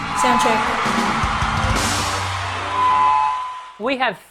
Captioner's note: drums and cheers